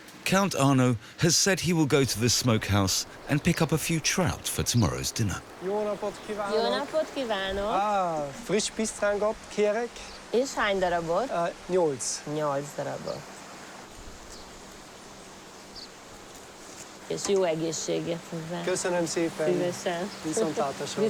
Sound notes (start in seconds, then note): 5.9 speaking in foreign language